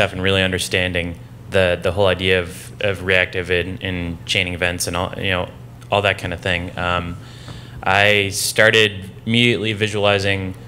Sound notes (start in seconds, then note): none